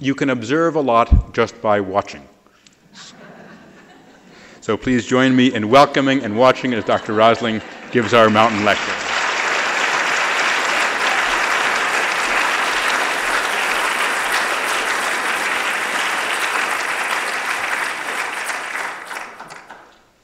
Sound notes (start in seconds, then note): 2.9 laughter; 9.4 applause